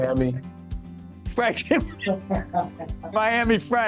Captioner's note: laughing